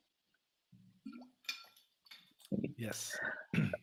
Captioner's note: water bottle rattles